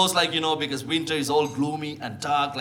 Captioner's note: none